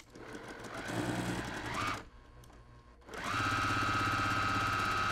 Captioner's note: sewing machine humming